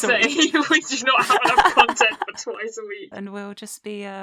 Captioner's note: laughter